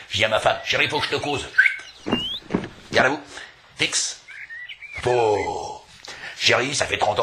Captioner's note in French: il l'a siffle